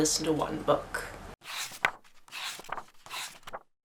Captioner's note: pages turning